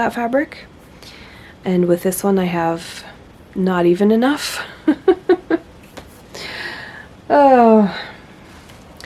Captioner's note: laughs